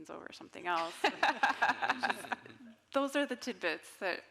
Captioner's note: all laughing